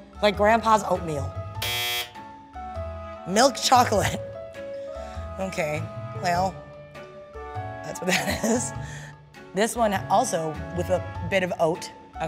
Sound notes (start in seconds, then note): 1.6 buzzer sounding